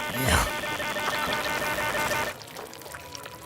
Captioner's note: squelching